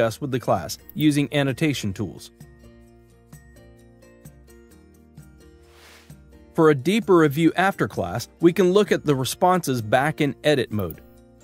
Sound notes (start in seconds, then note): 2.3 gentle music continues; 5.7 screen whooshes